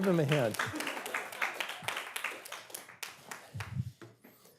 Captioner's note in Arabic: تصفيق